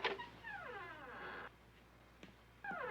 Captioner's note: door creaking